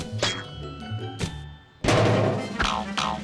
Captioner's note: thuds